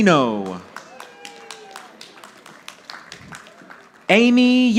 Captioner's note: audience applauding